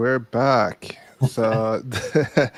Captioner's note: laughing